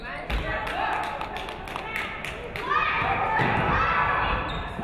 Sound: audience clapping

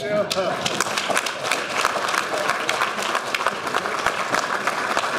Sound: audience applauding

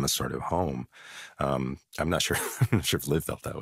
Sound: chuckles

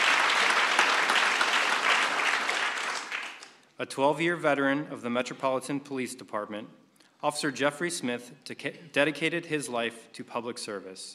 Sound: applause

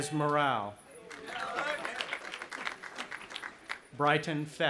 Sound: audience applauding

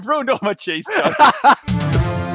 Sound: both laughing; news music

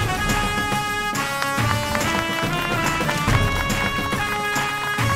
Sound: claps

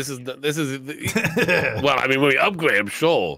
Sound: laughing

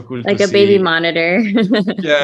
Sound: laughs

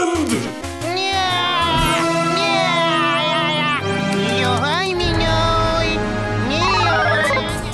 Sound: DoodleBob talking gibberish

